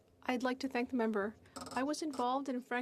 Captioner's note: speaking French